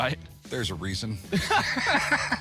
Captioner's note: all laughing